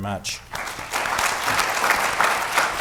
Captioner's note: applause